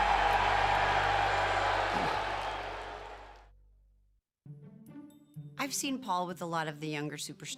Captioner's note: applause